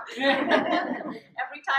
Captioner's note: audience laughs